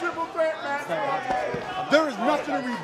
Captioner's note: crowd chatter